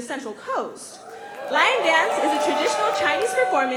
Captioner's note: cheering